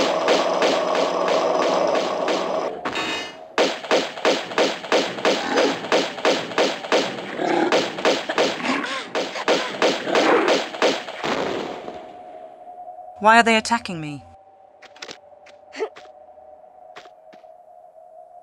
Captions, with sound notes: *Iron sound* *Explosion* Why are they attacking me?